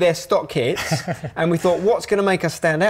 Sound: chuckles

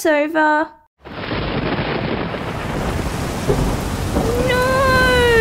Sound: thunder

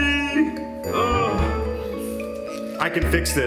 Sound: groans

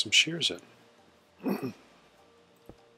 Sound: soft throat clearing

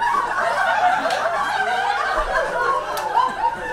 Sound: audience laughs

